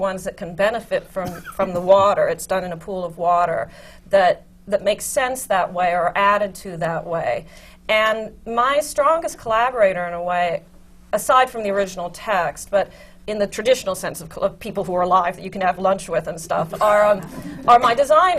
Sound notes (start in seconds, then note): 16.5 laughter